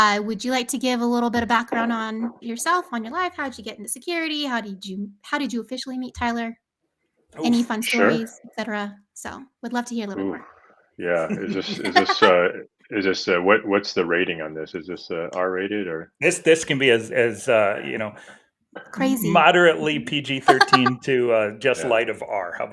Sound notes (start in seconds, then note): 11.0 laughing